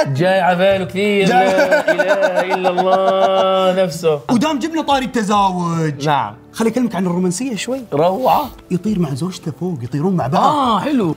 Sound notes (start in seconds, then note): 1.3 laughs